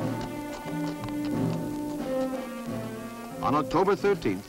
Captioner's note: hooves clop